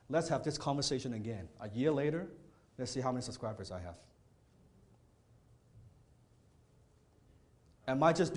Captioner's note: none